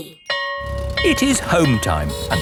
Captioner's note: school bell ringing